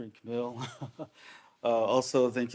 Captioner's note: chuckles